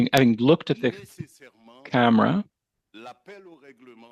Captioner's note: speaking French